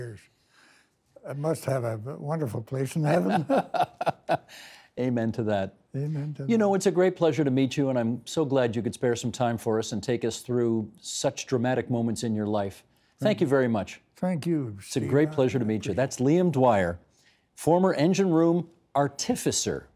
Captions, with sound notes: must have a wonderful place in heaven. (Laughing) Amen to that. Amen to that. You know, it's a great pleasure to meet you, and I'm so glad you could spare some time for us and take us through such dramatic moments in your life. Thank you very much. Thank you, Steve. It's a great pleasure to meet you. That's Liam Dwyer-- former engine-room artificer